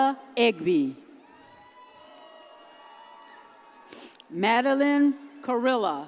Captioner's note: audience cheers